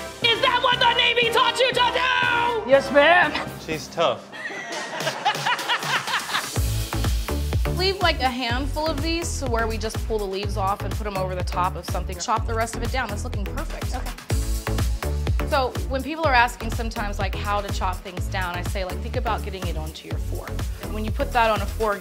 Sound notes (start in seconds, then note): 0.2 yells; 4.3 laughter; 5.5 upbeat music